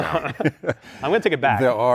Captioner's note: laughter